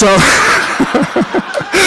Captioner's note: laughter